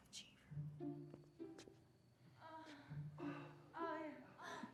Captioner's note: muffled moaning